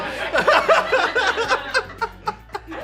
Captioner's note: laughs